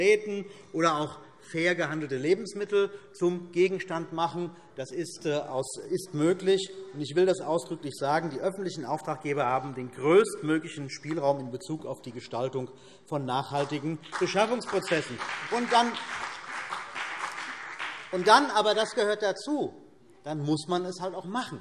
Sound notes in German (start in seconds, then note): 15.1 Beifall BÜNDNIS 90/DIE GRÜNEN